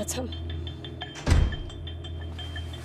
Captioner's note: door slams; tense music